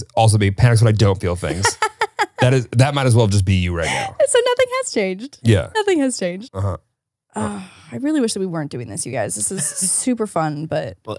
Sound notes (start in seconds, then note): 1.4 laughs